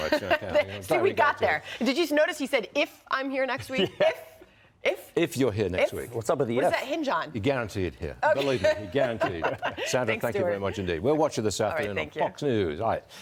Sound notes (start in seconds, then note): 3.6 laughter